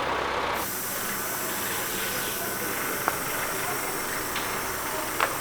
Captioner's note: machine hisses